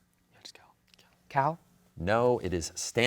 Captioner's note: whispering; whispers